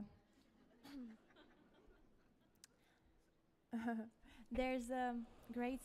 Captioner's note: audience members laugh